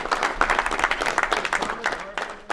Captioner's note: applause